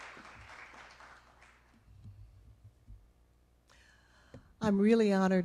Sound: applause

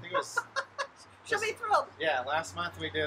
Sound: laughing

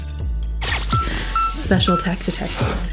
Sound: watch beeps

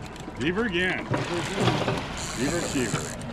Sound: boat engine idling; reel cranking

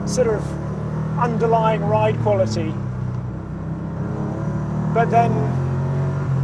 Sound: engine rumbles

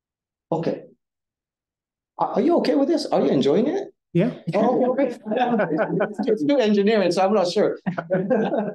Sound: audience Chuckling

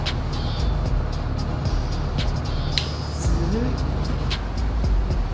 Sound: none

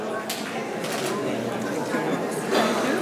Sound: camera shutter clicks

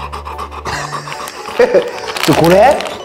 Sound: laughs

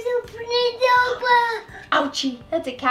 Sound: baby gibberish

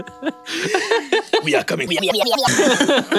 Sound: giggles; in a french accent

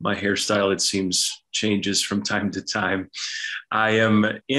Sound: chuckles

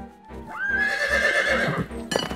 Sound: horse whinnies

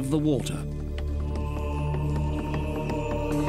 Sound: men chanting

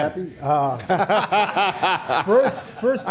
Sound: laughter

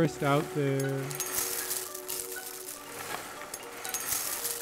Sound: cereal pours into bowl

